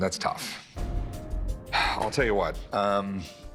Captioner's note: suspenseful music; sighs